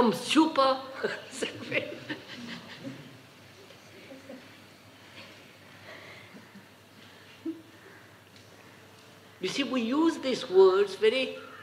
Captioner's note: laughs